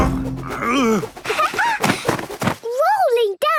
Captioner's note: laughing